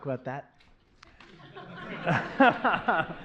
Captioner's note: laughter